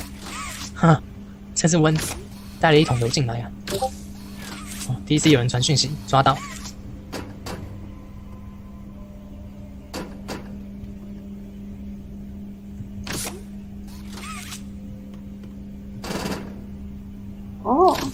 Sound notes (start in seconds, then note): 3.7 Discord reminder bell